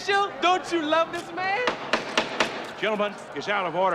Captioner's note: gavel Pounding